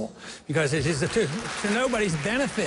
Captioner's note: applause